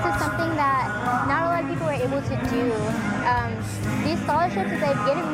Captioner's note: none